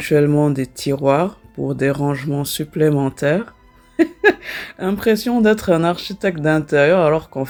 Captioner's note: laughs